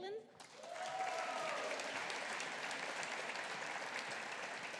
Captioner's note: audience applauding